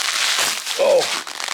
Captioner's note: bubble wrap squeaking